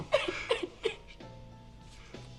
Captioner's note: crying